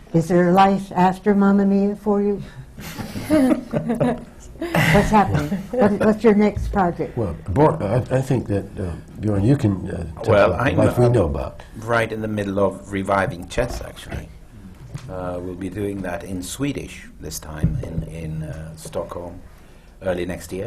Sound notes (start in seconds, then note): 2.8 laughter